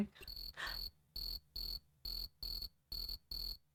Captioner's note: crickets chirping